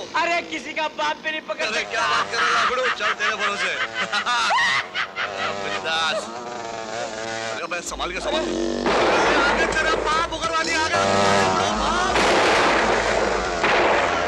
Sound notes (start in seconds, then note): 3.8 laughs; 12.1 gunshot